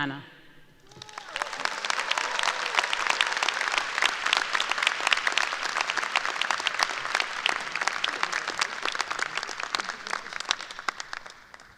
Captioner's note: applause